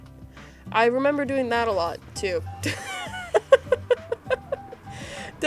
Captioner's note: laughs